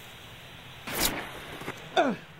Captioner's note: gunshot